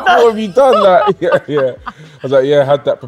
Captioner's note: laughing